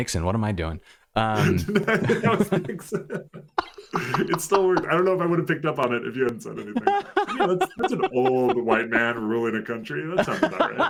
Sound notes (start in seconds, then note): 1.4 laughter